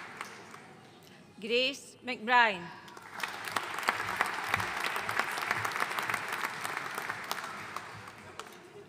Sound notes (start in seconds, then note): 3.0 audience applauding